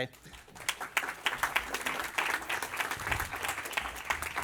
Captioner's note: applause